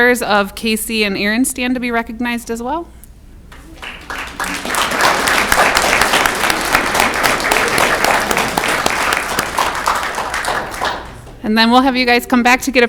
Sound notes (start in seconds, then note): 3.5 audience clapping